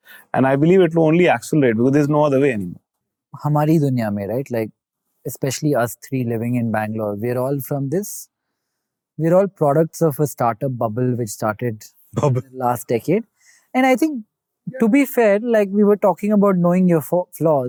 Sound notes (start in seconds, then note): 2.9 speaking in Hindi